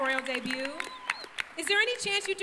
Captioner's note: applause